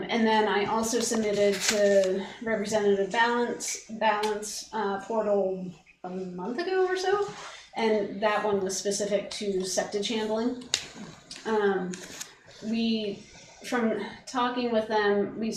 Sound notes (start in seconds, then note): none